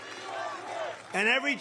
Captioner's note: cheering and applause